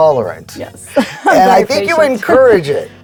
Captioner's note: laughing